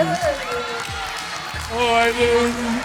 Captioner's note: cheering